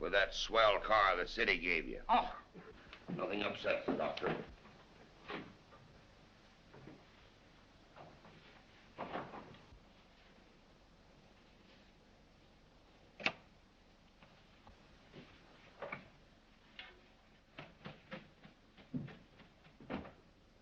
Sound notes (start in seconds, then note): 9.2 door closing; 13.2 click -Door Opening